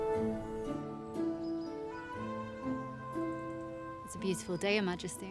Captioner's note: birds chirping